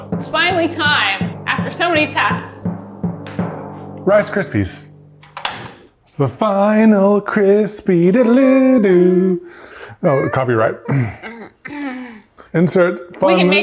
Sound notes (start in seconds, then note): 5.2 dial clicks; 10.0 grumbles